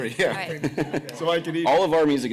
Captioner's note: laughter